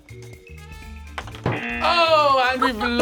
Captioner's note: ice clatters; buzzer